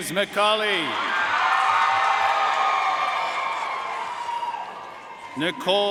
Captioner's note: audience cheering and applauding